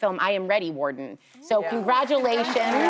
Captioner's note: applause